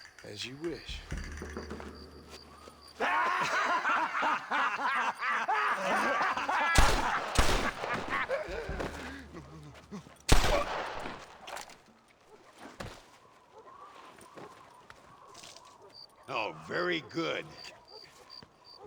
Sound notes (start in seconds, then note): 2.9 laughs